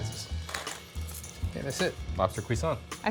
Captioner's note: grinder crunches